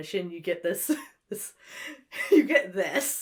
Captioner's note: giggles